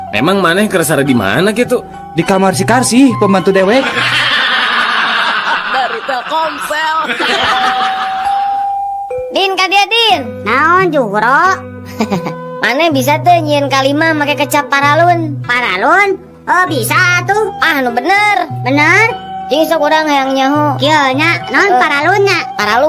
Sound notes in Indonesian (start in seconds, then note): 7.6 tertawa